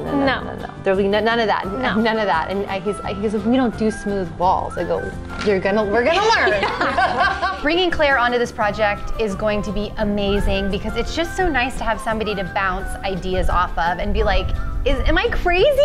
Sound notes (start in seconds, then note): 6.2 both laugh